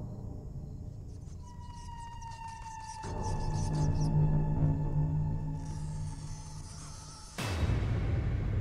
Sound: strange scratching sounds

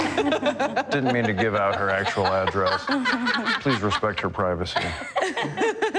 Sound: laughter

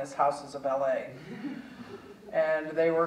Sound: audience chuckling

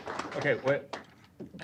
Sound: applause

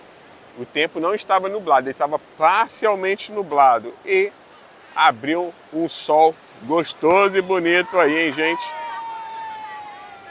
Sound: applause

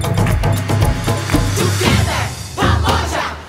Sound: all chanting

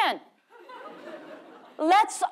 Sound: audience laughing

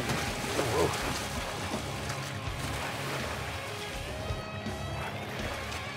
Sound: splashingng

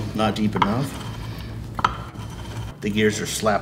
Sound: grinding continues

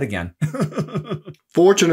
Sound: laughs

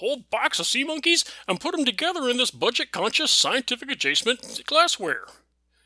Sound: choke

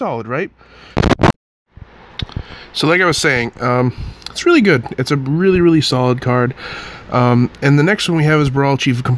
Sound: static

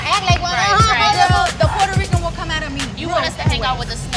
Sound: laughing

